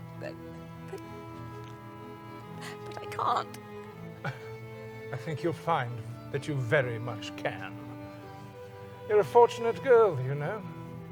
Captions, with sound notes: - But— but I can't. - (Scoffs) I think you'll find that you very much can. You're a fortunate girl, you know.